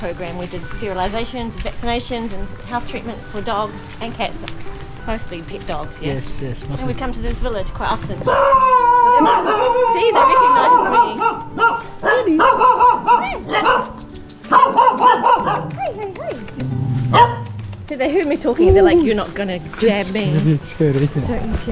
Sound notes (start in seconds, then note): 8.9 dogs barking